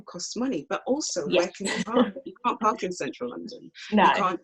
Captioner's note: laughs